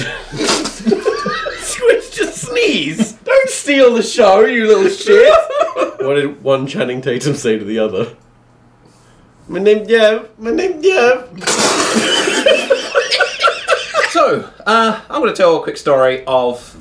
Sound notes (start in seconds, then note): 0.0 laughing; 0.1 spitting water; 5.0 laughing; 11.4 spitting water; 11.7 laughing